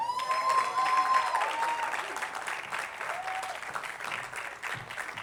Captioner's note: attendees applauding